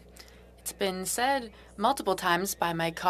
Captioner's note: speaking french